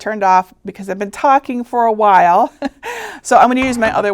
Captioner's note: chuckling